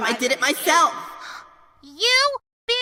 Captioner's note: gasp